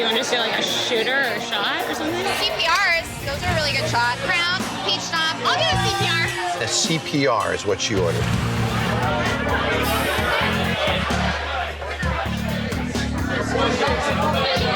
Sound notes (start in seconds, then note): 8.8 indistinct customer chatter